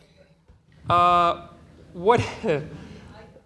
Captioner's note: laughs